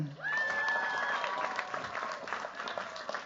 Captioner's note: cheers, applause